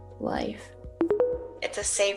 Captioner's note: tones